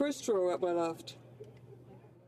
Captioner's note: speaking French